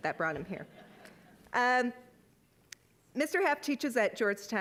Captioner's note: audience laughing